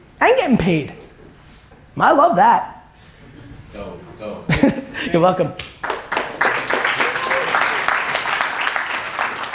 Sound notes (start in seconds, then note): 4.5 Gary chuckling; 5.8 audience applause